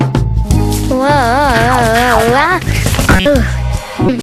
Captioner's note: squeaking Noise; boing, Boing, Boing